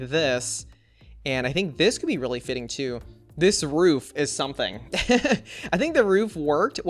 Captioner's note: laughs